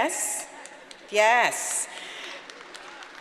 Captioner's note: audience applauding